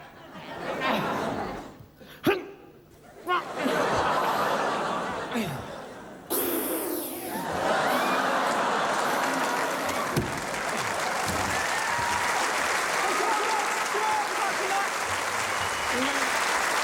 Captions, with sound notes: Three! Four! *Blowing* Thanks a lot! Have a good night!